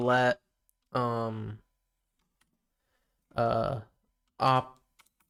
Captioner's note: silence